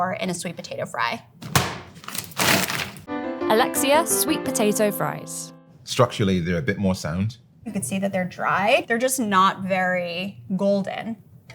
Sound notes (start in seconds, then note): 1.4 fries pack thudding; 1.9 plastic crinkling